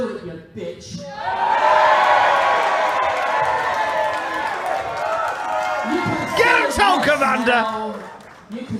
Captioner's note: crowd cheers